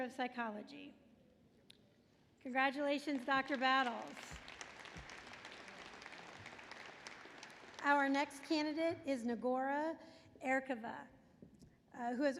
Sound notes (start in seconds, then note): 3.0 applause